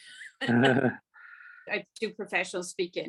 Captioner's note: laughs